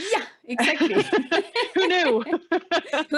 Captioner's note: laughing